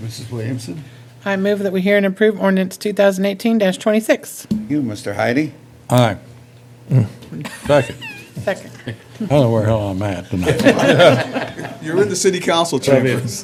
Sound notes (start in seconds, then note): 7.4 laughter; 10.4 laughter